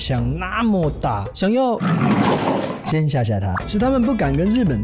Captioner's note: roar